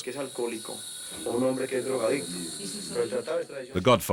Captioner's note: Spanish spoken audio